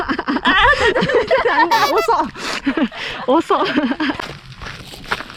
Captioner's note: laughs